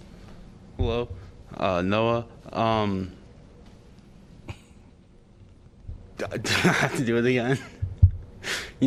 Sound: laughter

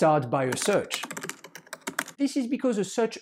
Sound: keyboard keys clacking

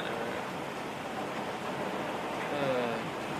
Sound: rain beating; sighs

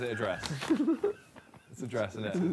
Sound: group chattering

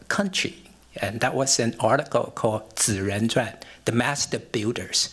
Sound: non-english speech

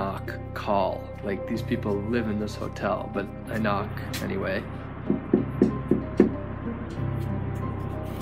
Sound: knocking

